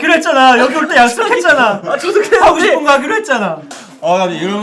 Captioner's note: holding back tears